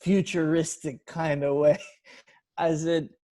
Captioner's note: chuckling